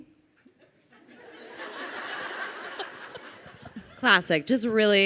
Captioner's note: crowd laughs